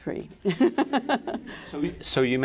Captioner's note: laughs